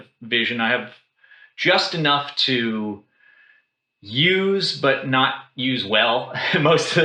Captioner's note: laughs